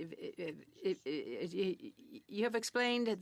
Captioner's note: speaking French